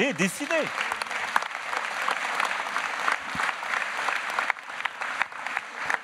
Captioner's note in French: Applaudissements